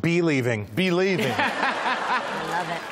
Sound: laughter

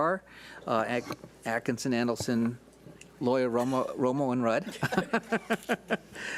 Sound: laughs

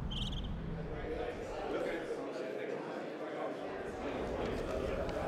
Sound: audience murmuring

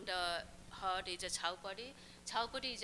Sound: non-english speech

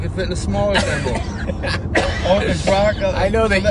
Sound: laughing

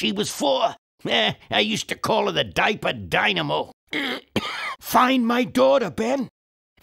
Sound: coughs

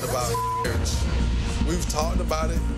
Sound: beep

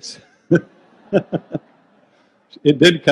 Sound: group laughs

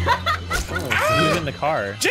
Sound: laughs; screams

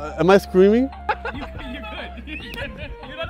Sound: laughter

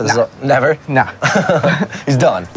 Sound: laughs

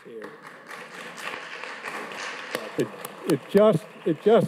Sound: audience claps

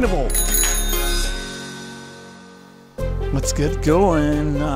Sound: bike bell rings

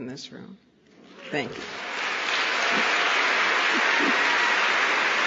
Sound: applause

